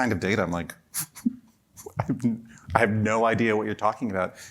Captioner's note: chuckle